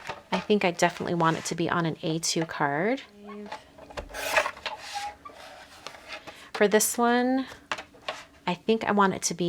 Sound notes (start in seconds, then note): 0.0 objects knocking; 4.1 cutter scraping